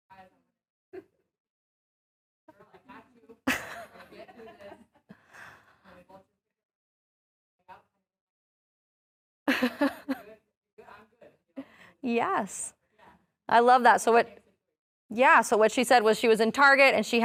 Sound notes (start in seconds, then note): 2.7 laughing